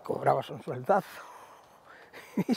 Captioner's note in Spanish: Ríe